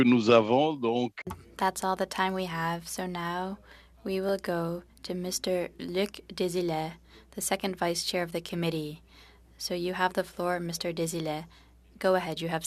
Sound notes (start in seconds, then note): 4.7 speaking french